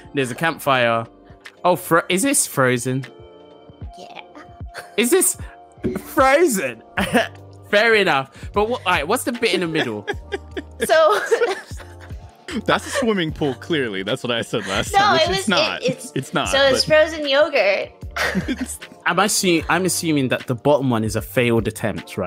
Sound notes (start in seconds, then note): 10.9 all laugh; 18.2 laughs